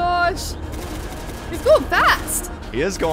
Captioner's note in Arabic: طلقات تطلق